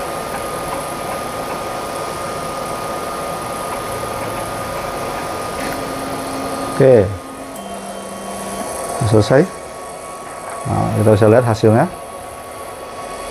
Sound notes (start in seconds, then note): 6.3 printer machine noise